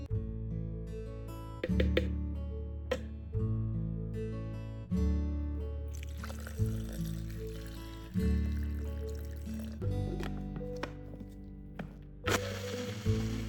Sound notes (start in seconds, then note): 5.9 water